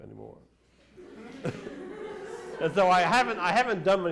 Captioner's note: laughter